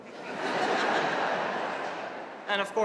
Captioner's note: audience laughing